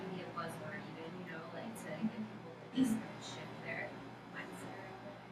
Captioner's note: speaking softly